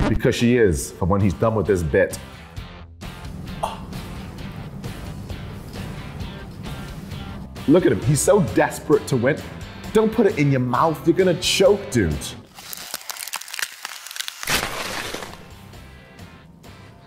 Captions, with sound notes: Because she is. And even when he's done his bit. Look at him – he's so desperate to win. Don't put it in your mouth! You're gonna choke, dude. (freezing sound effects)